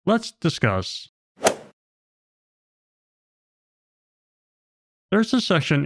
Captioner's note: golf ball hit sound effect